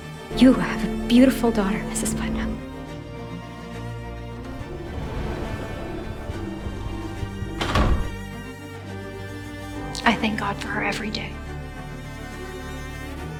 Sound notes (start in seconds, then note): 7.5 the wooden door bangs shut